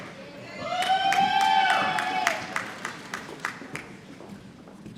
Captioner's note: applause